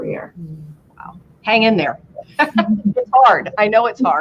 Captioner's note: laughter